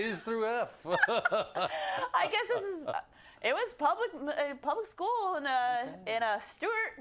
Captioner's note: laugh